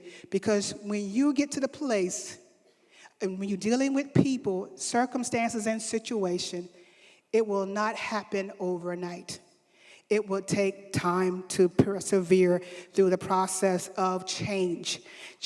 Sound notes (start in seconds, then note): none